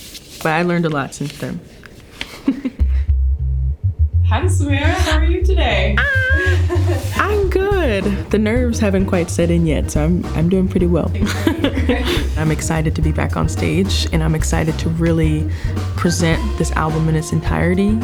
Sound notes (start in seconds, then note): 2.3 laughing; 5.8 exclaiming; 11.2 laughing